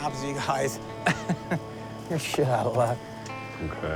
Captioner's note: chuckles